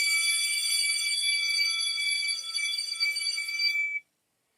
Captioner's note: sound of ringing bell